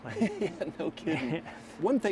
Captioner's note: laughter